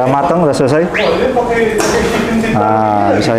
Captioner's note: distant chattering; dryer sound